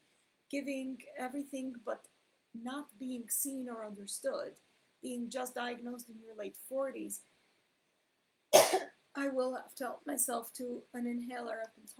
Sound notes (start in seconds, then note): 8.5 coughs